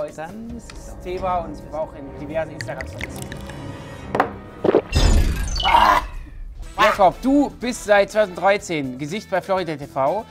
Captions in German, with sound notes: Dann ist es Thema und ... (Bedrohliche Klänge) (Gluckern, Schlucken) Oaaahhh! Jakob, du bist seit 2013 Gesicht bei Florida TV.